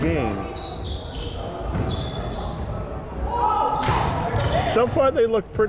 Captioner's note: crowd chattering and yelling